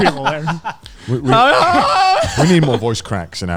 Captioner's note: squealing